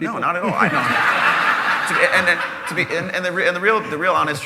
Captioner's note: laughter